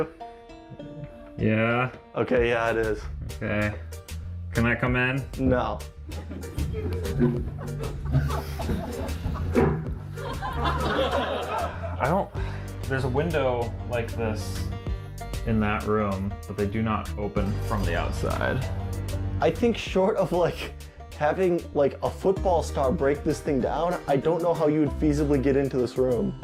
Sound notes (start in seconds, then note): 6.4 audience laughter